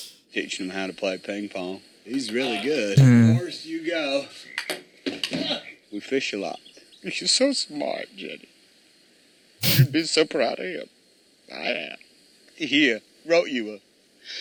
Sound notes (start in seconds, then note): 9.6 sniffles